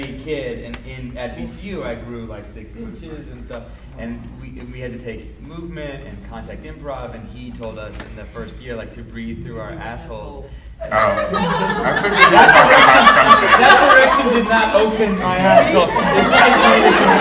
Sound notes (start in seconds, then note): 10.8 audience laughing; 12.7 laughing drowns out speakers